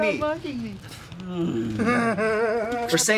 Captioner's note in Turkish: Gülme